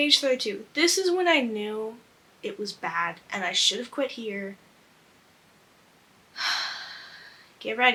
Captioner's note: sighs